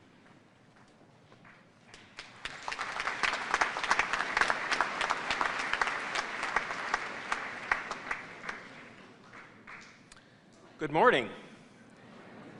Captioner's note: applause